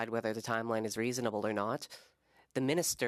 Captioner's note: speaking French